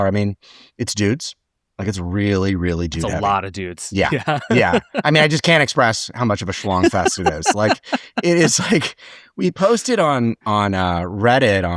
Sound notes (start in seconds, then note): 3.9 laughs